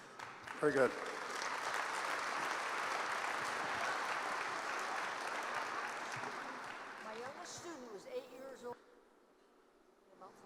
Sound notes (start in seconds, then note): 2.5 applause